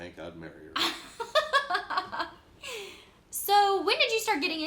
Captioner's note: laughs